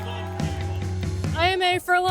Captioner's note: crowd cheering